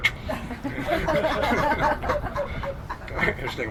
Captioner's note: he and crowd laughs